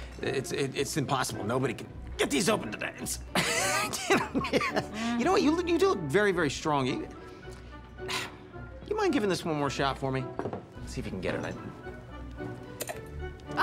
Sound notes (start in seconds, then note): 3.4 laughs